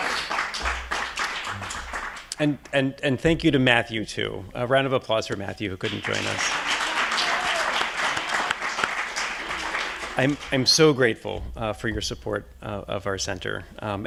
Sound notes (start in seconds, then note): 0.0 audience applauding; 5.8 audience applauding